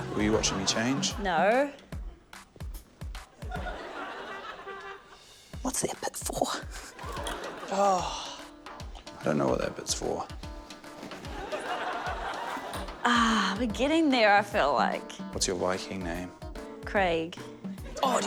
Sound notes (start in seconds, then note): 3.4 laughter; 11.1 laughter